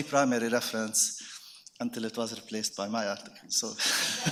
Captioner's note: laughs; audience laughing